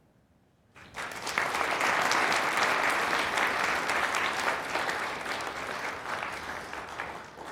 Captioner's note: applause